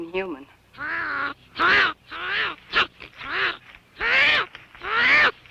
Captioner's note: grunting